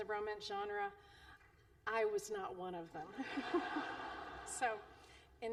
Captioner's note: laughter